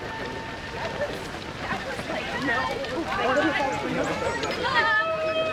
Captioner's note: crowd noise